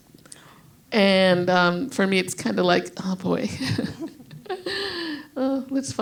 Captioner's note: laughs